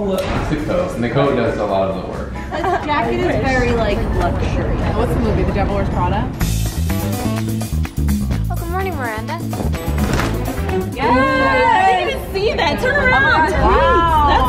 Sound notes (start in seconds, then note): 6.7 upbeat music; 9.9 fabric rustling